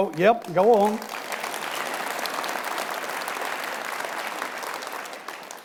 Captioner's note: audience applauding